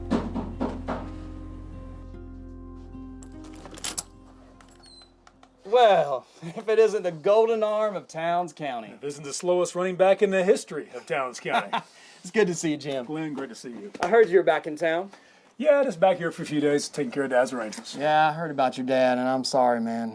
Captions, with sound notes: [rapid knocking] [keys jangle] Well, if it isn't the golden arm of Towns County. If it isn't the slowest running back in the history of Towns County. -It's good to see you, Jim. -Glenn, great to see you. -I heard you're back in town. -Yeah, just back here for a few days, taking care of Dad's arrangements. Yeah, I heard about your dad and I'm sorry, man.